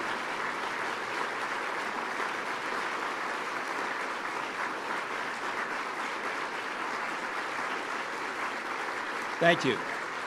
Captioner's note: applause